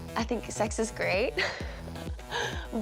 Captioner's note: laughs